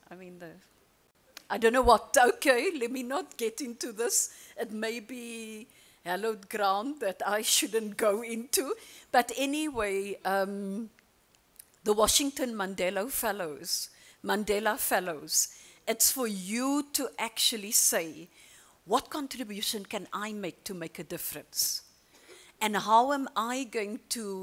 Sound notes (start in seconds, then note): none